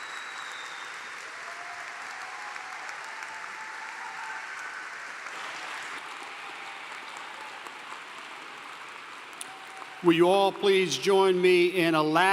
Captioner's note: applause